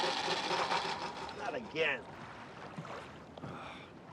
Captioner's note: motor stalling; sighing